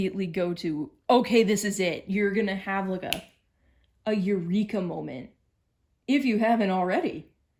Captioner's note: snaps fingers